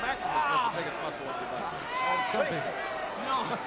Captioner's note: wrestlers vocalizing; crowd chattering drowns out commentators